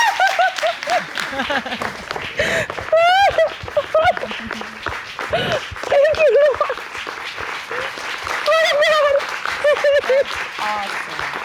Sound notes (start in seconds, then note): 2.4 crying